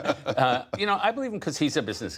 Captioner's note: laughter